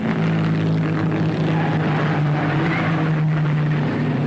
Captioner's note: engines roaring